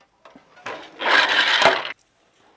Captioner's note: noise of shuttle moving